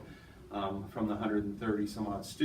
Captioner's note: none